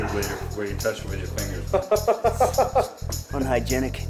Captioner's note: laughter